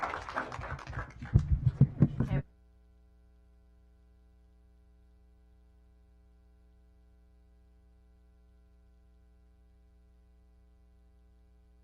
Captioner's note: applause